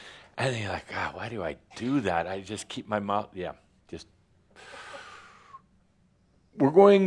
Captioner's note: sucking in his breath